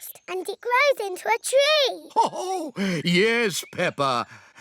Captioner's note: laughs